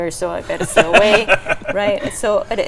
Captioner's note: laughing